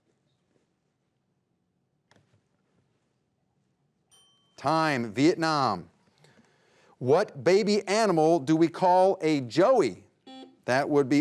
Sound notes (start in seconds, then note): 4.1 bell dings; 10.2 buzzer buzzes